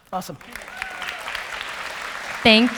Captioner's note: audience applause